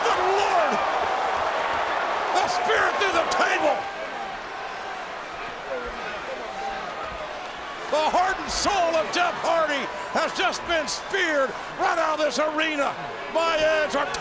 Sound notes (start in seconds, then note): 4.9 audience chattering